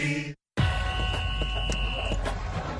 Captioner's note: whistle blowing